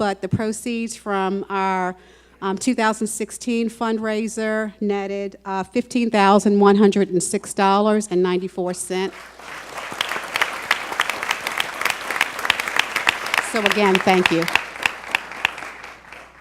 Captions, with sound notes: the proceeds from our 2016 fundraiser netted $15,106.94 [applause] So again thank you.